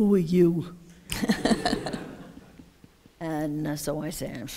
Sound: laughter

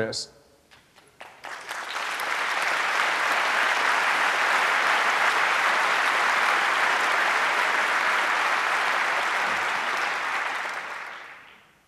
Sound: applause

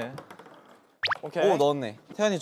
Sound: plop

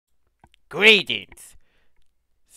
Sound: russian Voice Blurty

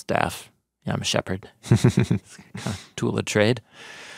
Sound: chuckling

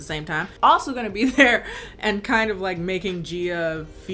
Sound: laughs

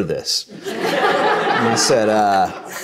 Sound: audience laughs

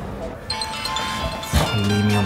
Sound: phone dials; phone rings

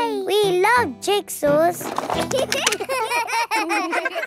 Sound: laughter

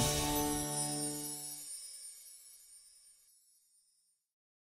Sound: gentle chiming

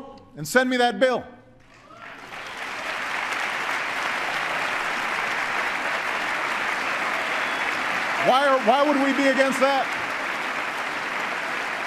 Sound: applause

